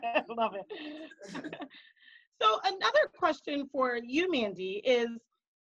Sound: laughing

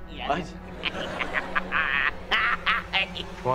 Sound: laughing

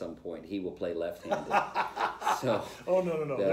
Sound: laughter

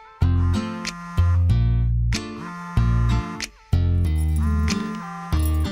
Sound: mobile ringing

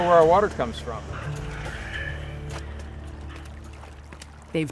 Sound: water trickling; footsteps splatting

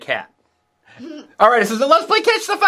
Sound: laughs

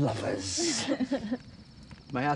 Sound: laughter

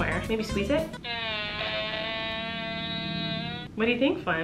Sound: farting

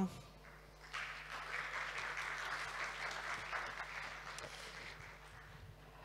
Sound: applause

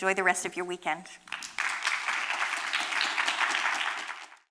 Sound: applause

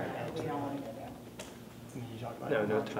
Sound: whispering

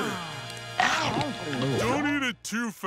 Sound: crunching

